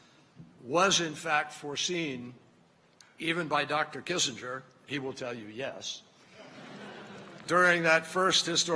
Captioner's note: laughter